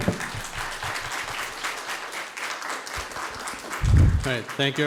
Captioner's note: audience applauds